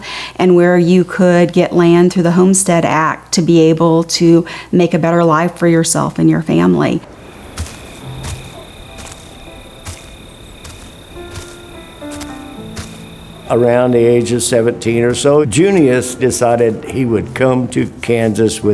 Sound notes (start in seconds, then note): 6.4 crickets chirping; 6.8 footsteps crunching